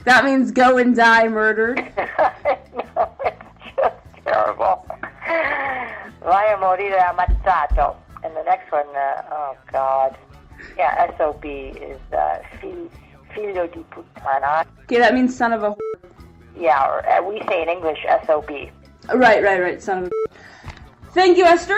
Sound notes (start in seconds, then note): 0.0 speaking Italian; 6.6 speaking Italian; 15.7 beep; 20.0 beep